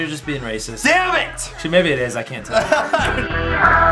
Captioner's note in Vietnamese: cười